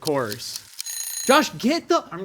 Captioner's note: alarm ringing